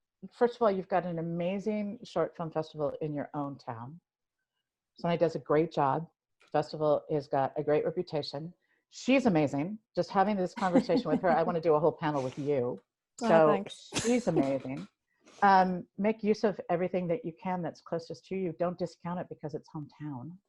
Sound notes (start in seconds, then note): 13.9 chuckles